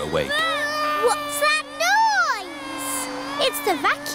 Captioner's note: vacuum cleaner whirring